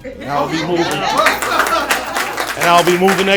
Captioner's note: crowd laughing, cheering and applauding